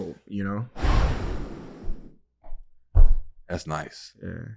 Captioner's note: exhales loudly